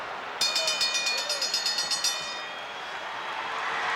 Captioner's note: bell rings; crowd cheers